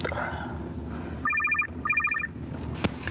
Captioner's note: phone ringing